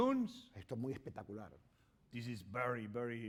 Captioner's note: speaking spanish